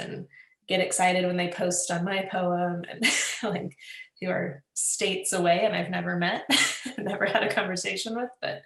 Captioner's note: laughs